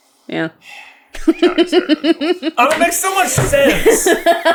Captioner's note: laughing